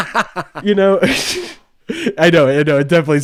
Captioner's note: laughs